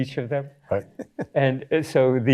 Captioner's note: chuckles